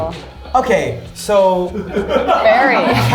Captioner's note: crew laughing